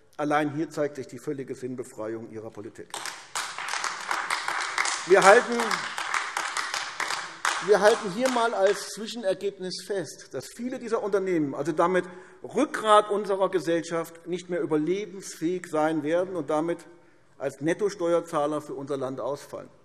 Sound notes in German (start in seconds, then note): 2.9 Beifall AfD